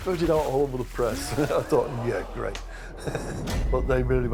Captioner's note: laughing